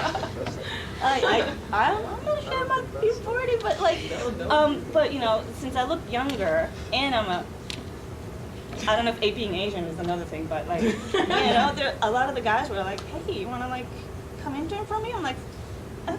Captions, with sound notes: (audience laughing) I'm not ashamed about being 40! But, you know, since I look younger, and I'm a, I don't know if me being Asian is another thing, but, (audience laughing) A lot of the guys were like, "Hey, you want to, like, come intern for me?" I'm like, F you!